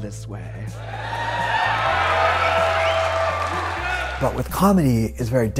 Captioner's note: audience applauds and cheers